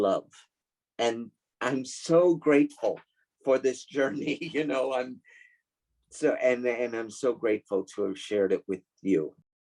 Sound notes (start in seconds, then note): 5.0 chuckles